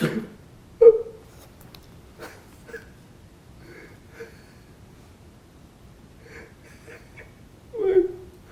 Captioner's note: crying